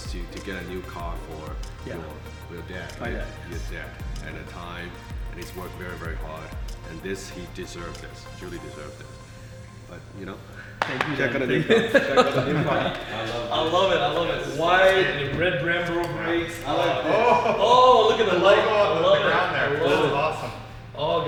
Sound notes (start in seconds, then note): 11.2 laughing